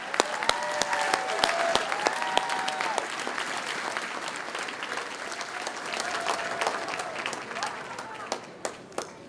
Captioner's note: cheers and applause